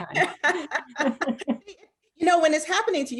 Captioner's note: laughs